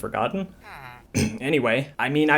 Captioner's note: clears throat